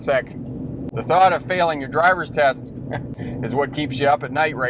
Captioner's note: laughs